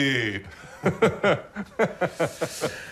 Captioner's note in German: Beide lachen